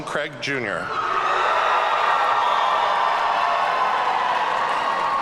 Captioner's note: audience cheering